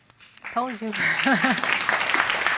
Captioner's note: laughs